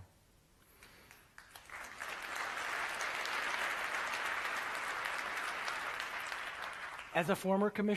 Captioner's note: applause